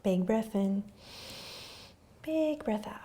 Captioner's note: inhaling